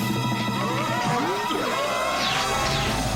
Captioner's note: they scream